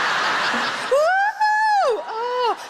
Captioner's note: audience laughs; Sarah whoops